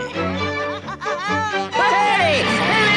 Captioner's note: Toad laughs